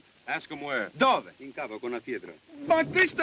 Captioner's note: speaking italian